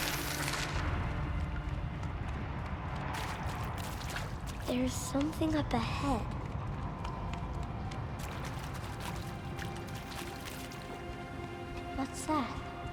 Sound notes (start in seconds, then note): none